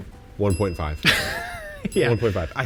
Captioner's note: bell chimes; chuckles